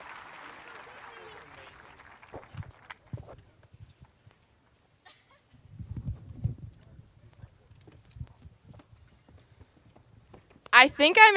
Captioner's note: applause